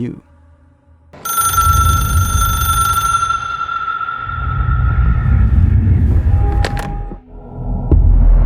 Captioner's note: echoed ring